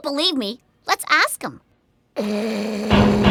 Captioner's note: snoring, clanking on door